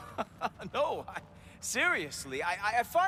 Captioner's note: laughing